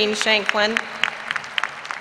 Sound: applause

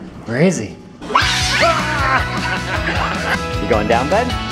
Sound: squeals and laughter; laughter

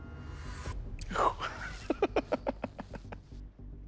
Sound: laughs

